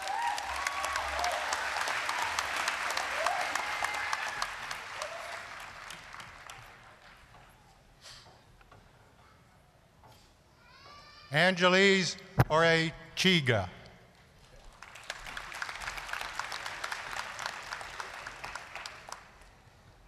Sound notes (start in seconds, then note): 0.0 applause, cheering; 14.4 applause